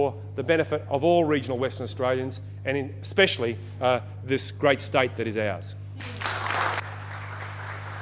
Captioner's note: applause